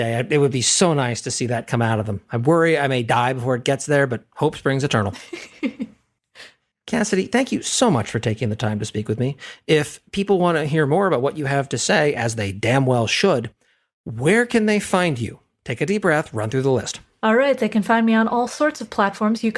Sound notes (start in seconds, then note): 5.1 laugh